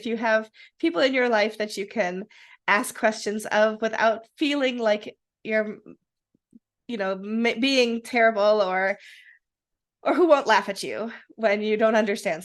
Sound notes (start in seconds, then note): none